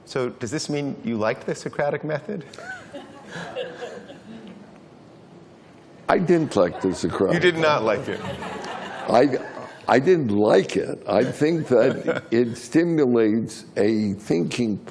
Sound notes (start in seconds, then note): 2.6 laughing